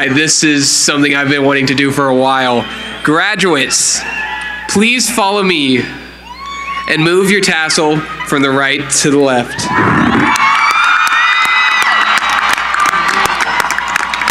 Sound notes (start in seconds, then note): 9.3 cheering